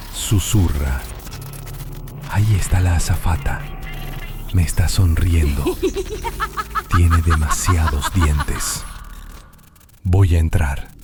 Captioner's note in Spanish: risas